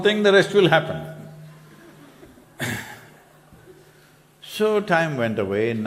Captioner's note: participant laughs